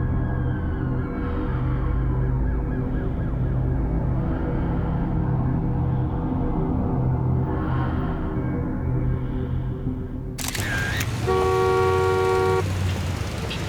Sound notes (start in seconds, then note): 1.1 siren wailing; 10.4 shutter clicking; 10.4 horn honking